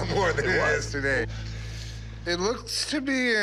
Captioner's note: none